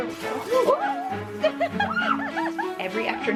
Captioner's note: exclaims